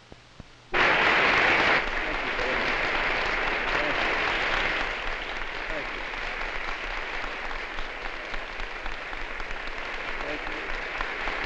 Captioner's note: applause